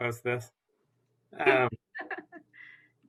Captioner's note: laughter